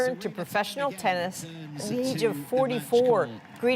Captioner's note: cheers and Applause